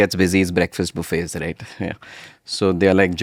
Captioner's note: laughs